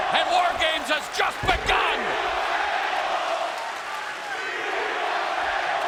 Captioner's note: fans chanting